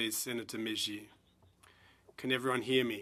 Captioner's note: speaking French